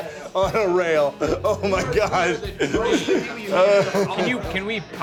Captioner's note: indistinct conversation